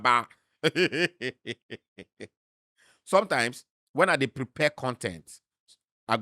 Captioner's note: chuckles